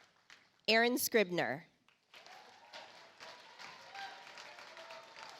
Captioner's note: audience applauds